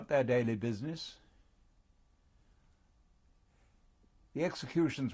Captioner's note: pauses for 3 seconds